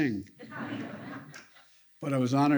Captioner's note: laughter